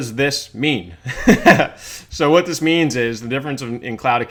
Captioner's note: laughs